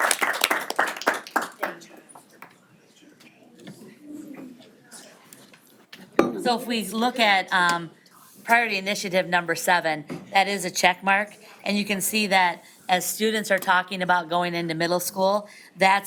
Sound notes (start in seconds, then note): 1.7 people chatting